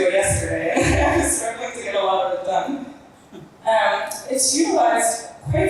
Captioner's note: laughs